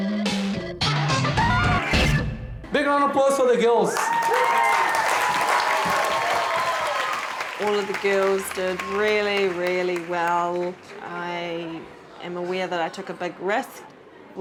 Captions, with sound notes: Big round of applause for the girls! (crowd cheers) - All of the girls did really, really well. I am aware that I took a big risk.